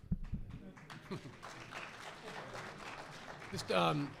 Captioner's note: audience applause